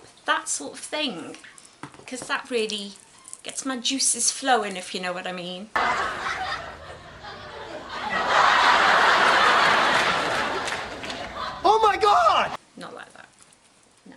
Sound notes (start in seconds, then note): 5.7 laughter